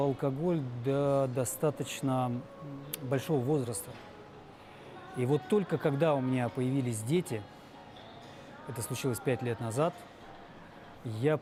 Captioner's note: speaking russian